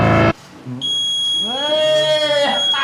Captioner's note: buzzer Alarm Sound